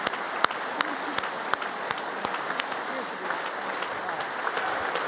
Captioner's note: congress applauding